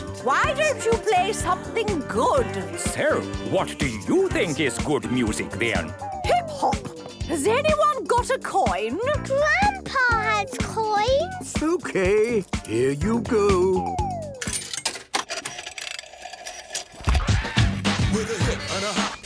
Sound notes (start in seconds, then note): 14.4 clicks, whirring; 17.1 hip hop music plays